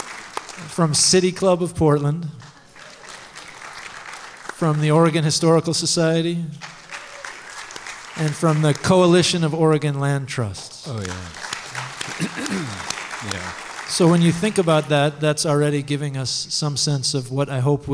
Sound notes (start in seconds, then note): 0.0 applause; 10.5 applause